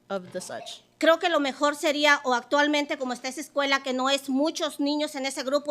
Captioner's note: speaking Spanish